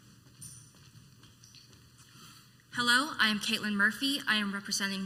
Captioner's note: footsteps